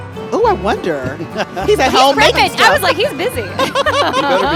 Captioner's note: chuckling; laughing